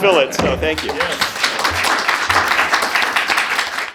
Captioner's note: audience clapping